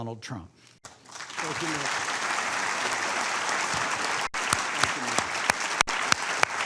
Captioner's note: applause